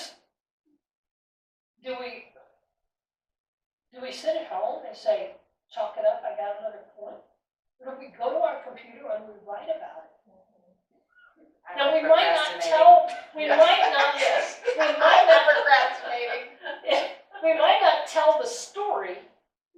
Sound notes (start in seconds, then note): 13.3 audience comment and laughter